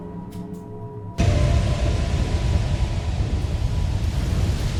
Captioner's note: dramatic music; wind gushing